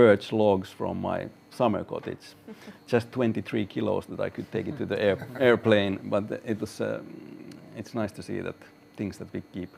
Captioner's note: laughs